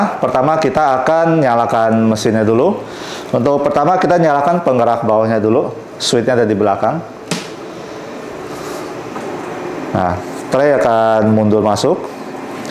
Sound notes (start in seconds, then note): 7.3 switching on sound; 7.9 moving tray sound